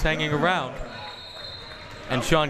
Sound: whistle tweeting

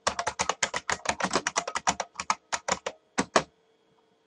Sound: keyboard clicks

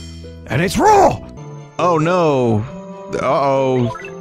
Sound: uninterestedly

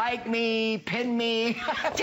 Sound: laughter

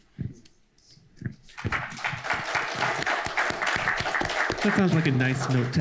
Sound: applause

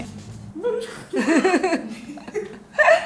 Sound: laughs

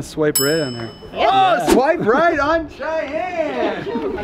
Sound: yelling

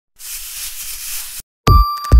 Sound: scratching; mellow music

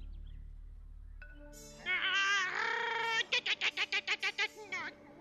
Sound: chirping

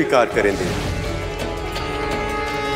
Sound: conch blows

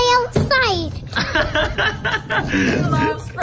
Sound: laughter

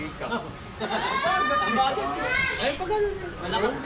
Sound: laughs

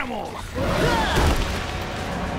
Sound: grunting

